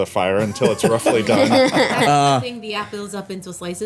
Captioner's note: everyone laughing